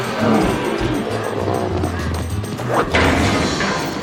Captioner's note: grunting; jeering